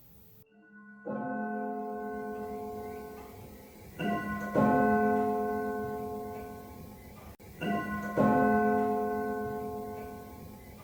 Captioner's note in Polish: Bicie zegara i śpiew ptaków